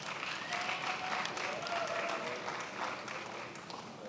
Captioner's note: attendees applauding